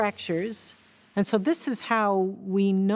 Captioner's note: particles crackling as they shoot out fractures